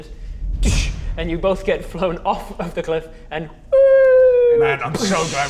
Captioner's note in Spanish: Splash